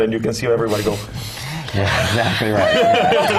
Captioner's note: laugh